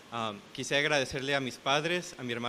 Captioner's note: speaking spanish